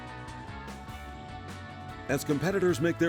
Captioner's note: voiceover